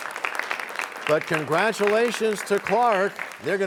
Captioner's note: applause